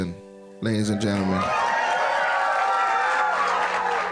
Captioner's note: cheers and applause